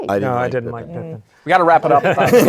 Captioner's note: laughter